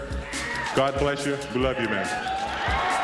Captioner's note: crowd cheers